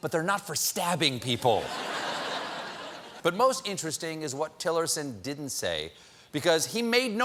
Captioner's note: laughter